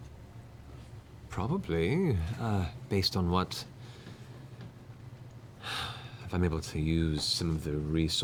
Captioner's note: sighs